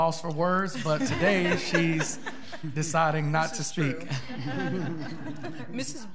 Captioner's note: laughing